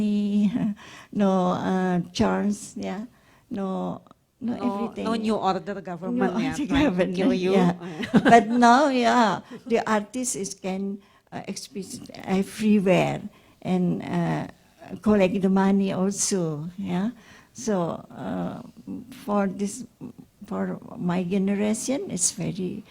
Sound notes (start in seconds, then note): 6.3 laughs